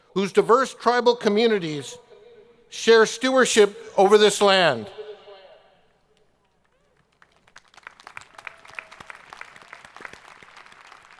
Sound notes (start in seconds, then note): 6.9 audience applauding